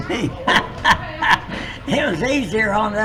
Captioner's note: laughs